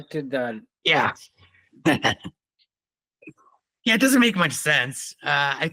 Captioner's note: laughing